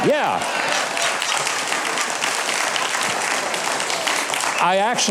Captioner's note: audience laughing